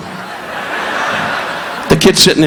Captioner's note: audience laughing